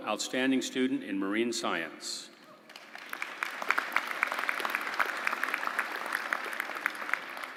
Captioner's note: applause